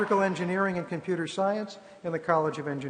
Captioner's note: applause